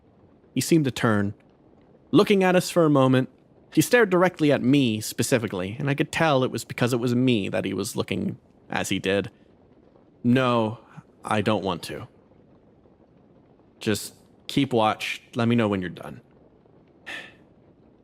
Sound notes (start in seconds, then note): 17.0 sigh